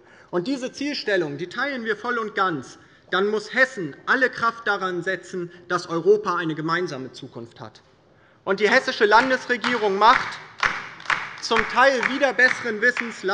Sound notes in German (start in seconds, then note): 9.0 Beifall bei der LINKEN